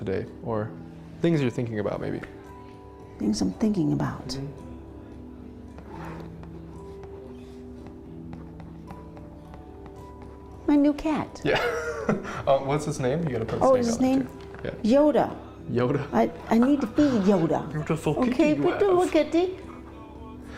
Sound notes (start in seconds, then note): 5.7 scribbling; 11.5 laughs; 16.2 laughs